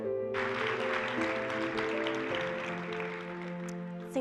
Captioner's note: applause